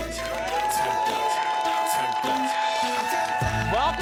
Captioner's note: audience cheering; r&b music playing